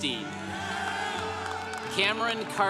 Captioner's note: congregation cheering